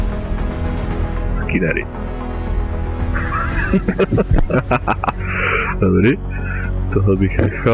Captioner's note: laughter